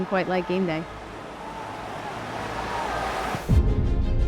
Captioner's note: crowd roaring; exciting music